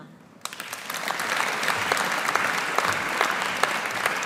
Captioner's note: audience applauding